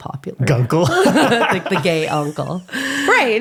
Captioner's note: laughing